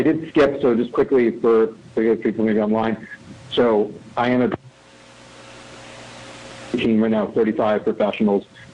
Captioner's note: audio cutting in/out